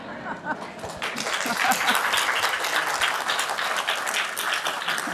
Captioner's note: applause; laughs